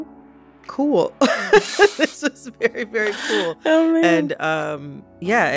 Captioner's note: laughter